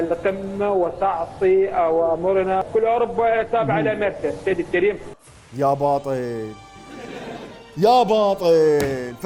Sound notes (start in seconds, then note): 5.6 Syrian accent